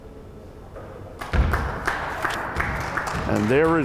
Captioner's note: crowd applauding